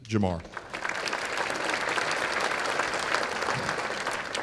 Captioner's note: applause